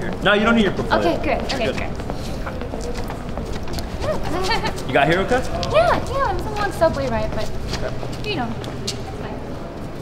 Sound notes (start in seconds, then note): 4.0 emma giggles